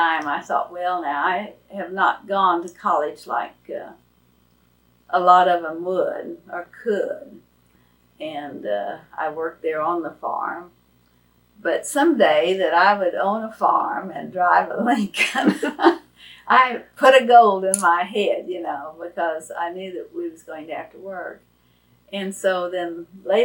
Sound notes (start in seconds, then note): 15.2 laughs